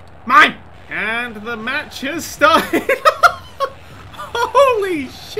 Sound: laughing

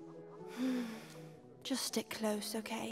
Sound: sigh

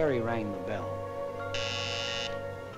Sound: doorbell

